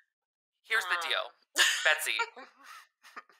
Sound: laughing

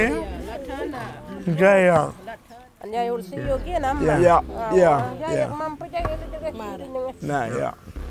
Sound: Speaking in Arrernte language

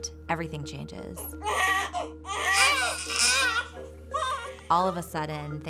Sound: babies crying

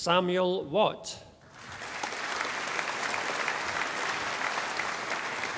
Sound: audience applauding

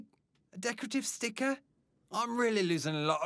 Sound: none

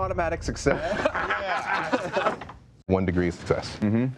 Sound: laughing

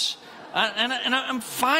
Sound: congregants laughing

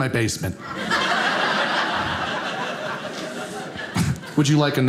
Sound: audience laughing

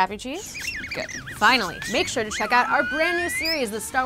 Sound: CH-33Z squeaks

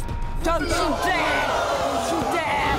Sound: audience gasps

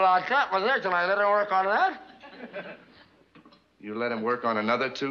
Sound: mumbling

